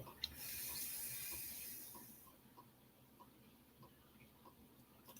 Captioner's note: exhaling